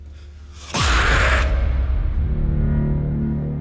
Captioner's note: dramatic music; man screeches; ominous music